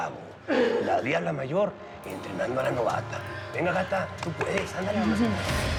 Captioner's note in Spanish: aplaude